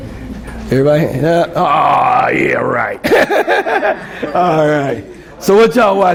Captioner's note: laughs